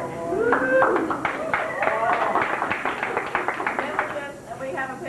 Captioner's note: crowd cheers